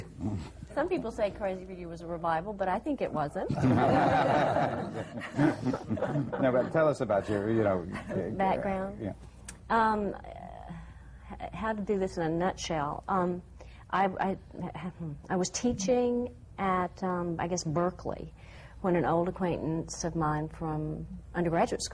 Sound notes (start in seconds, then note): 3.4 laughter